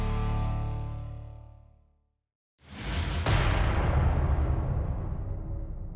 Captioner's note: metallic clash